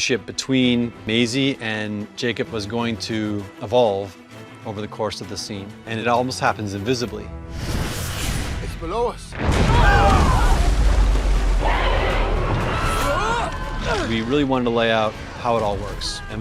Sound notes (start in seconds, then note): 10.8 crew screaming; 12.7 creature screeching; 12.7 man screaming